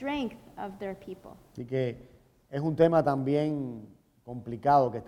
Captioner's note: speaking in Spanish